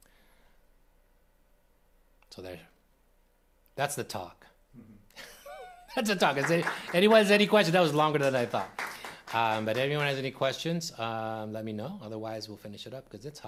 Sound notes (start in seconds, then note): 6.0 applause